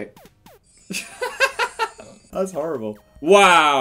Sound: laughter

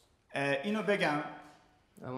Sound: speaking in farsi

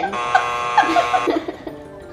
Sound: buzzer buzzing; laughing

